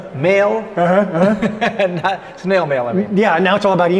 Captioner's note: laughing